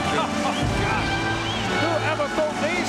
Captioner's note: chuckles